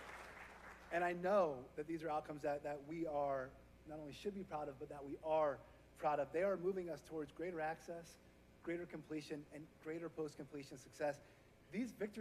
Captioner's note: applause